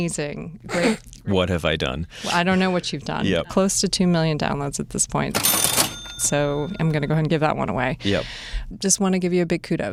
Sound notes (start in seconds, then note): 0.8 snorting; 5.3 cash register chiming